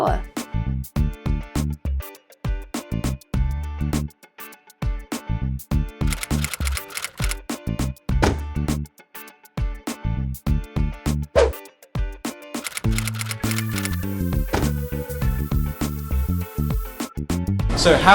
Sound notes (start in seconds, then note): 0.1 upbeat light electric guitar; 6.1 softly clicking; 8.1 softly thuds; 11.4 softly whips; 12.6 softly clicking; 14.6 softly thuds